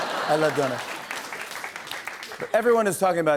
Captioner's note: laughter and applause